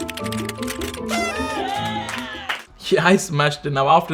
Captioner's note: keyboard keys clicking; lively music; party horn honking; group cheering